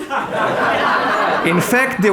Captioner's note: audience laughing